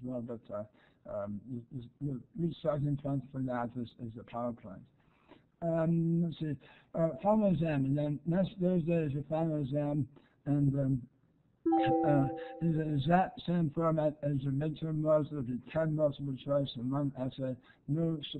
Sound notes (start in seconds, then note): 11.6 chimes